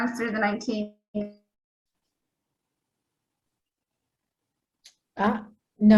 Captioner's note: audio distorts